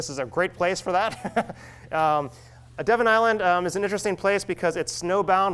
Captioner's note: laughs